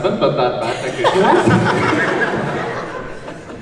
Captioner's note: everyone laughs